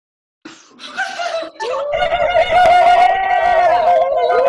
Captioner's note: attendees cheering